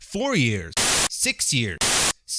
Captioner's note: static